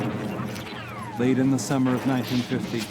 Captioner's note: airplanes buzzing; bullets pinging